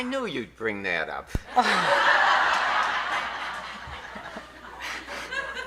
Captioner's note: audience laughing